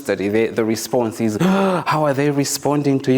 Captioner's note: gasps